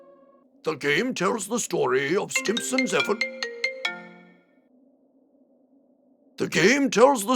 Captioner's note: phone ringing